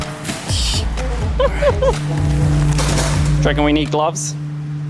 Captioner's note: laughing